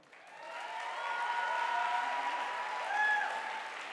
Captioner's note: audience applauding